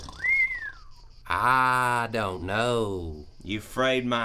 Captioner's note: whistles